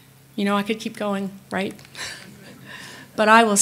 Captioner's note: laughs